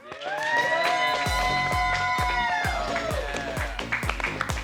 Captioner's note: cheering